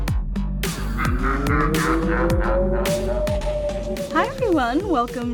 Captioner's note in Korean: 괴물 웃음